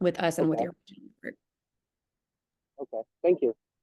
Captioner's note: feedback drowns